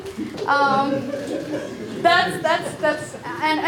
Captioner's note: group laughs